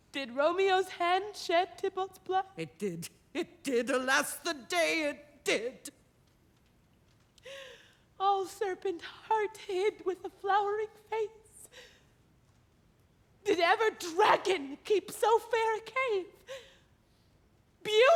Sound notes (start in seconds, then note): none